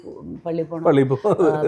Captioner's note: laughs